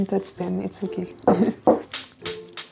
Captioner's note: laughs